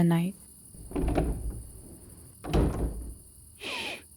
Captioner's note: door open & close